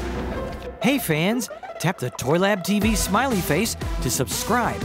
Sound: voiceover

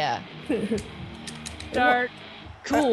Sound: laugh

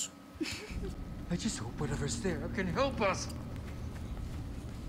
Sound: laughing

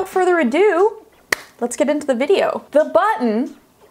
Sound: claps

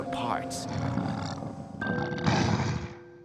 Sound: grunting

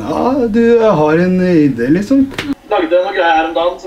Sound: in a horrible rendition of Andre's accent

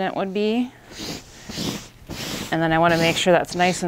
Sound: sheets rustling

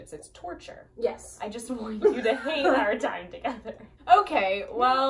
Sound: laughs

